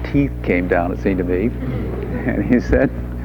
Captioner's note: audience laughing